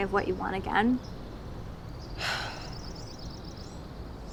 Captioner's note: exhales